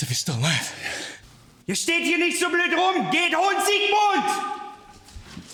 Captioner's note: officer speaking German